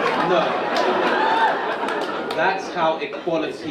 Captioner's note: audience laughing